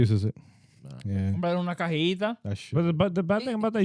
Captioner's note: speaking In Foreign Language